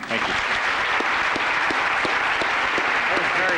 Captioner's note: applause